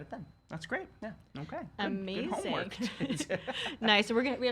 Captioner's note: laughs